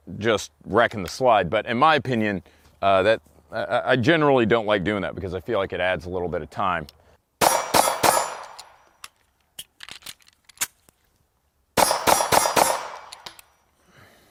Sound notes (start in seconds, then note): 7.4 gun shots